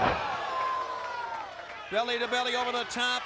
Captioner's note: wrestlers thudding; crowd exclaiming